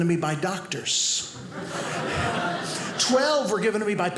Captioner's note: audience laughing